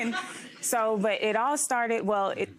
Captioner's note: audience laughing